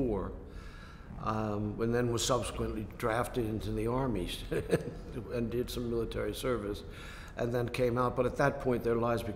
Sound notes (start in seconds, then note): 4.5 laughs